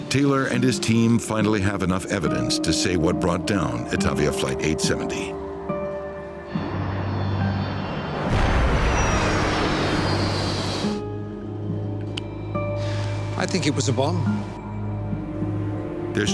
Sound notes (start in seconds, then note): 8.0 calm music; 8.0 loud banging